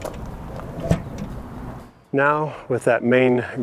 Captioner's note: thumping